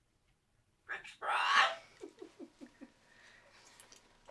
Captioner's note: laughing